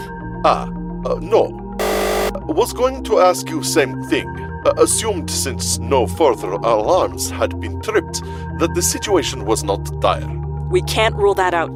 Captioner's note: buzzer